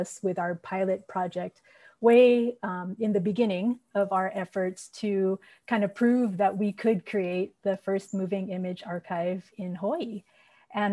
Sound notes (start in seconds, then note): none